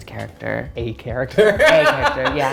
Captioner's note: laughs